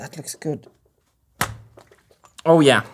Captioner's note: pop